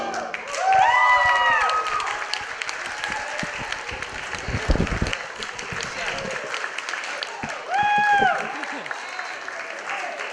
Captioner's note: applause